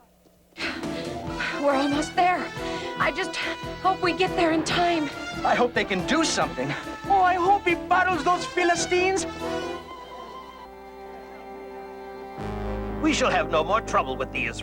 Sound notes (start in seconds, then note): 9.3 marching